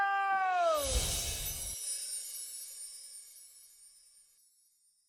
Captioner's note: wind chimes